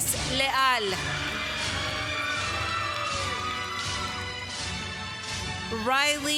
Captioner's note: applause